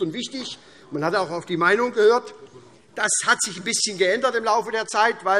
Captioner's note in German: none